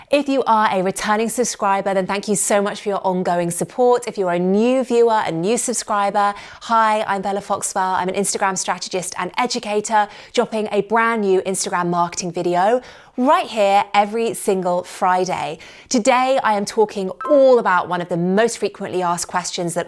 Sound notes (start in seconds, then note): 17.2 bell dinging